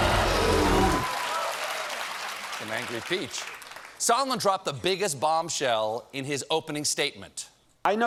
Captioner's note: cheers and applause